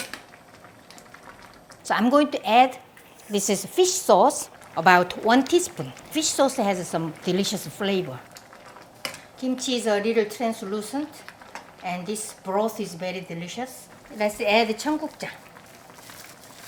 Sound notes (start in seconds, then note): none